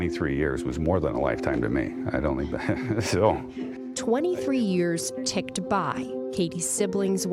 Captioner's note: laughs